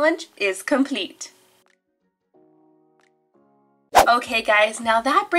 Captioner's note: gentle music; air whooshing